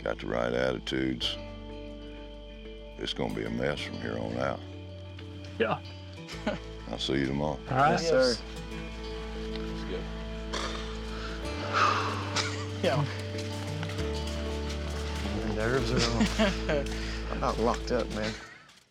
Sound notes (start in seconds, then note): 12.4 exhales